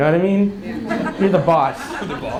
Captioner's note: audience laughs